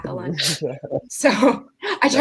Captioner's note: everyone laughing